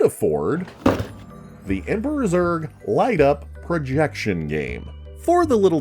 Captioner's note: thuds in Toy